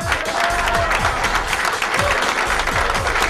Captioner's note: cheering and applause